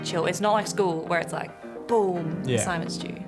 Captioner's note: none